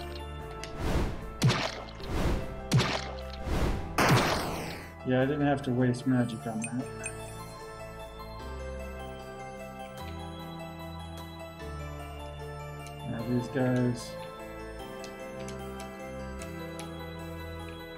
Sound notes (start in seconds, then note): none